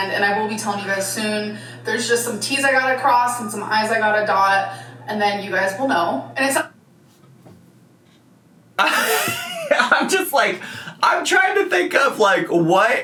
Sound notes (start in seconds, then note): 8.8 laughs